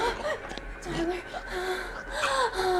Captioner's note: Tyler choking; tense suspenseful music